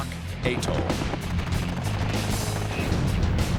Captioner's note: gunfire